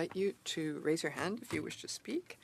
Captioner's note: speaking in French